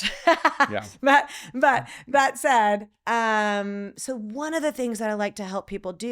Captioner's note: laughs